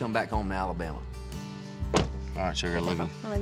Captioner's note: door closes